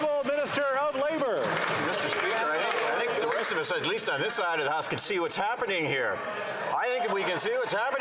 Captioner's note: some Applause